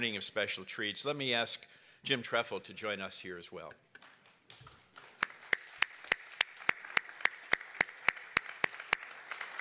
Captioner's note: applause